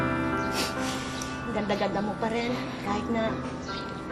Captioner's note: sniffles